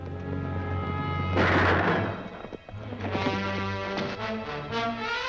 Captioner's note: gun firing